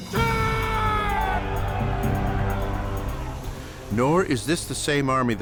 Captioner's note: soldiers screaming